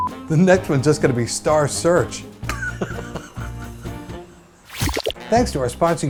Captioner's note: laughs